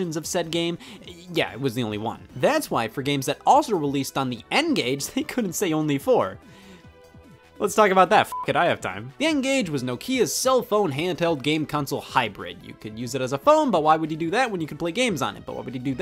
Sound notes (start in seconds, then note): 8.3 beep